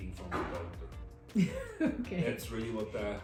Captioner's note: laughs